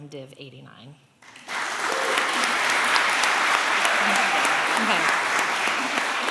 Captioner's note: applause